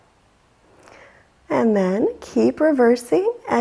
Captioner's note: deeply inhaling